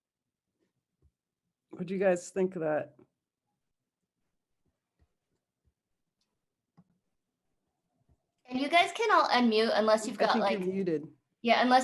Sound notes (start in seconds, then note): 4.4 pause